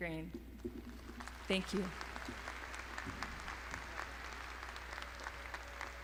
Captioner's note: crowd applauding